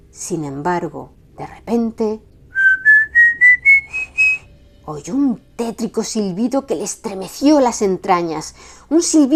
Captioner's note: whistle